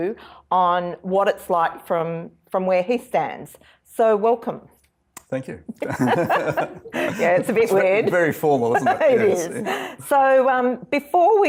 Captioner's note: both laugh